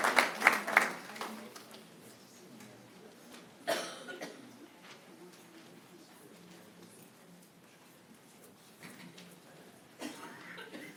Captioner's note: applause